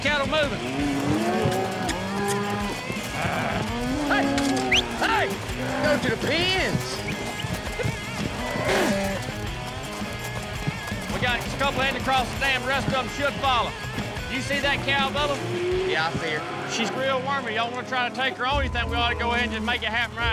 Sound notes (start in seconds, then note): 2.0 cattle moo; 5.1 shouting